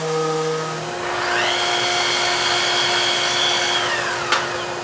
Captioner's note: saw whirring